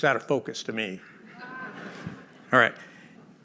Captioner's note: laughter